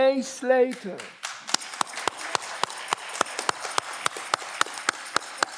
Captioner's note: audience clapping